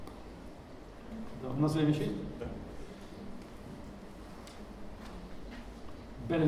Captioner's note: speaking in foreign language